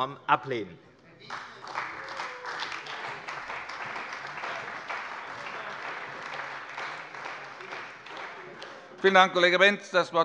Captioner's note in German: Beifall bei der CDU - Zurufe von der SPD und der LINKEN